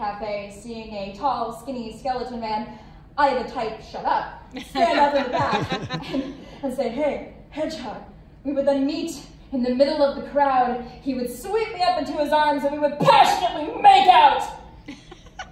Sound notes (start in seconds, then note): 4.5 laughter; 14.8 laughs